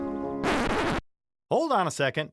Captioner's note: record scratches